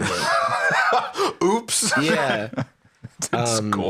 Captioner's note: laughs